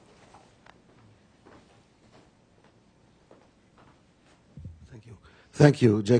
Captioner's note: audio break